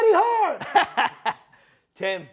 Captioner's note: laughing